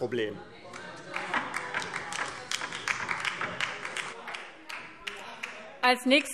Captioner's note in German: Beifall DIE LINKE - Zurufe